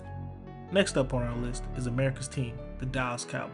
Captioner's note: voiceover